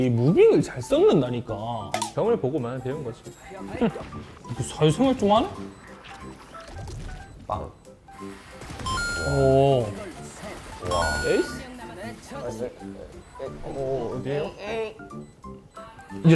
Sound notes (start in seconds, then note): 3.6 sassy